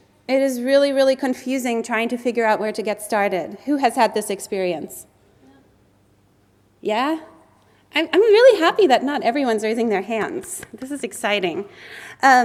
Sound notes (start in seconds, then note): 10.3 clapping